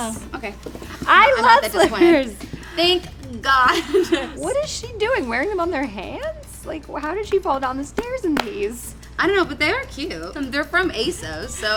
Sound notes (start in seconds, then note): 3.6 laughs